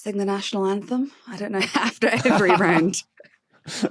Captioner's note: giggle